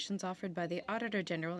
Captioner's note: speaking French